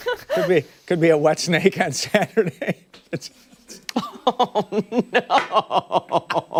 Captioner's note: laughter